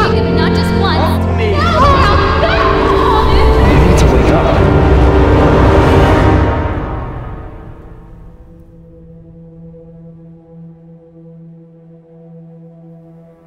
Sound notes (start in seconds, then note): 1.5 emma crying